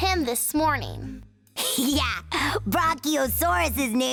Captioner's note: chuckling